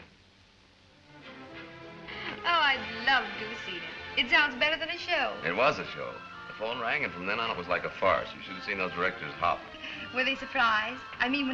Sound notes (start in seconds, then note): none